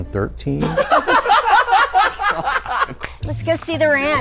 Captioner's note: group laughs